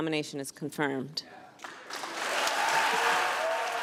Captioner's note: cheering and applause